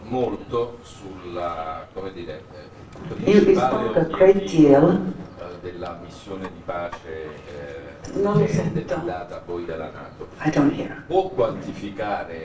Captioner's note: speaking in italian